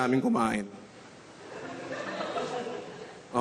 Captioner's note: scattered laughter